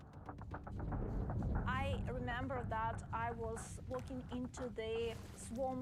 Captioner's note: speaking English